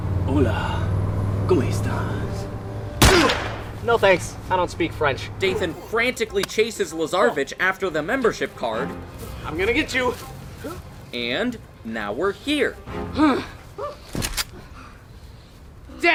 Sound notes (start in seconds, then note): 3.0 gunshot